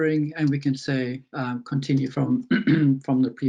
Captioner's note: clears throat